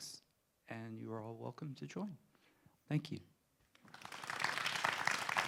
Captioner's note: applause